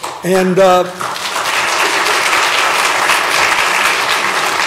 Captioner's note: applause